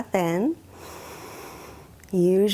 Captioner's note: inhales deeply